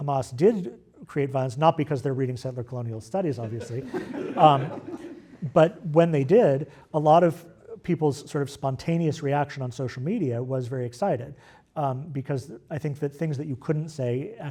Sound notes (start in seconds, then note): 3.5 laugh